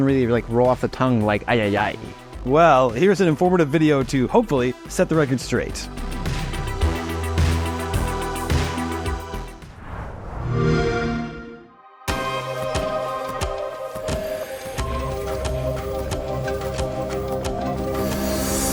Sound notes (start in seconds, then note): 10.4 xbox sound; 14.4 contemplative music; 18.5 music continues without sound effects